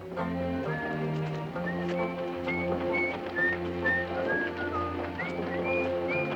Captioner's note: whistling melodically